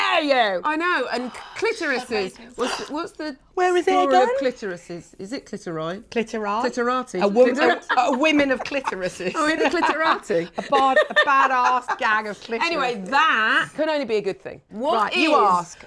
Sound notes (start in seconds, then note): 2.3 gasps; 7.3 laughing